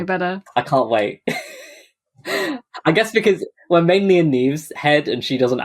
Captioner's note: laughs